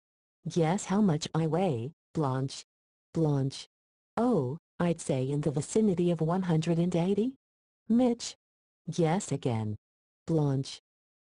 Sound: computerized voice reading text on screen

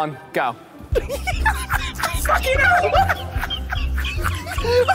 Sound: Ethan laughing

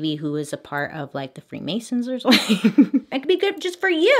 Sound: laughs

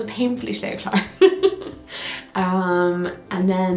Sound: laughing

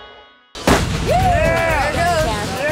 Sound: gunshot

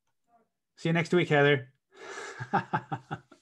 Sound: laughs

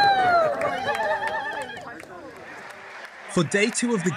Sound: applause

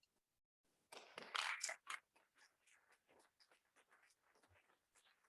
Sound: audience clapping

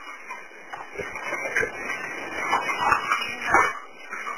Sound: fire crackling

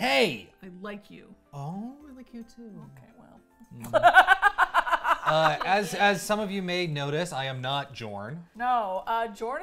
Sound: laughs

